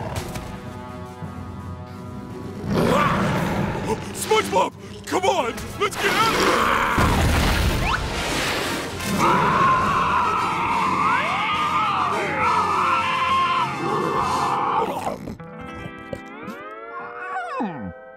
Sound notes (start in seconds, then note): 2.6 roaring; 6.3 screeching; 9.0 roaring